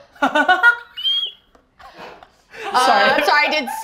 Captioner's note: high-pitched laugh